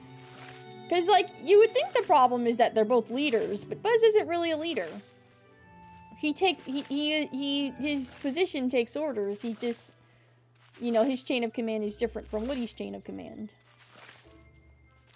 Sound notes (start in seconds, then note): none